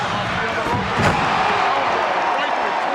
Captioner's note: audience exclaiming